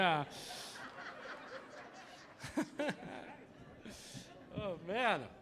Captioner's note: audience laughing